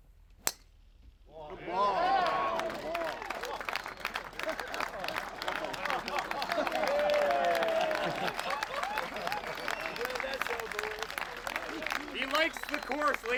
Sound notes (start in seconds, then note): 1.9 applause